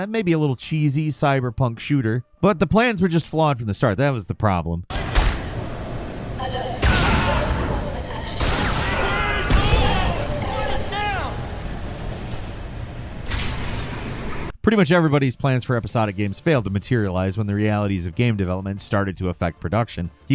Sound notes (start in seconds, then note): 6.7 gun banging; 9.5 character yelling